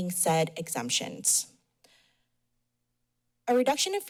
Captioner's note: pause